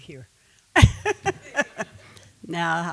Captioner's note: laughing